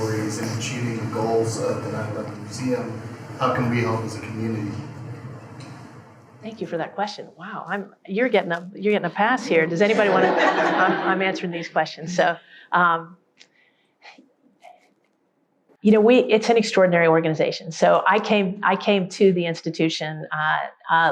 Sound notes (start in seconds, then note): 9.8 all laugh; 12.4 exhales